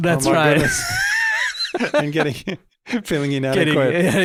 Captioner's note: hosts laughing